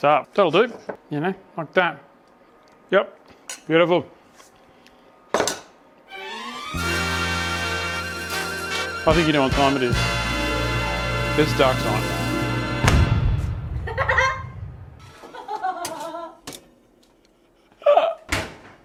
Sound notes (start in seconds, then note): 12.7 large explosion sound; 15.2 laughing